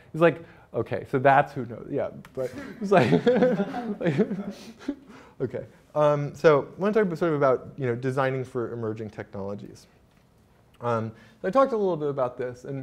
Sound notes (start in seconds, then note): 2.4 laughs